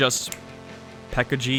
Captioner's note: snap